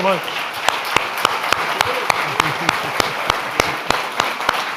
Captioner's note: all applauding